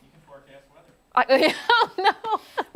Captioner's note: laughter